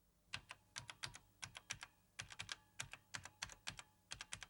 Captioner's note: keyboard keys clack